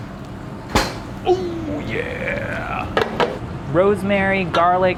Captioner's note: imitating a low voice